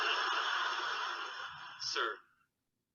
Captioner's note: audience laughing